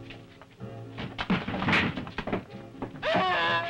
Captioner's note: cabinets crashing; Bruno screaming